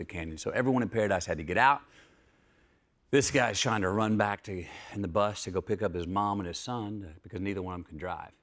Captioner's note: none